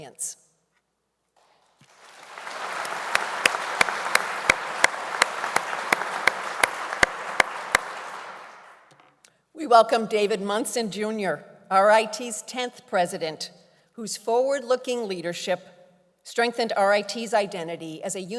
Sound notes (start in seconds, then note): 1.4 applause